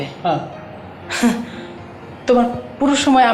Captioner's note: Tania chuckles